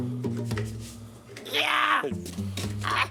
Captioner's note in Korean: 기합 소리와 함께 일단 시작